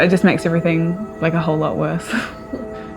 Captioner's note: chuckles